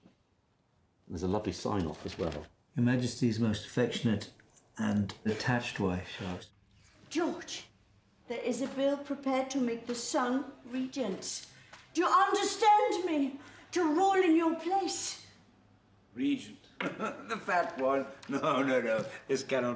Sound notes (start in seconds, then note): 16.8 laughs